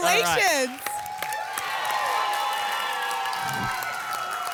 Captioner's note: applause and cheering; whoosh